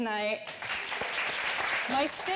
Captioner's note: audience clapping